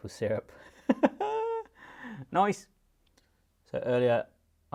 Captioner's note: laughs